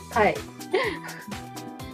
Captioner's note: laughter